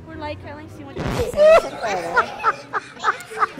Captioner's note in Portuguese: Risos